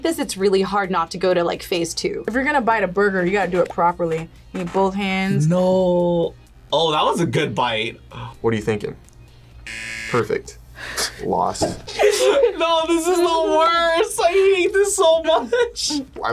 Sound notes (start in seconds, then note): 9.6 buzzer rings